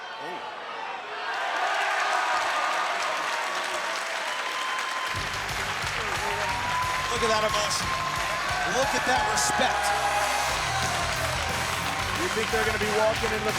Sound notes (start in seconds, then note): 5.2 applause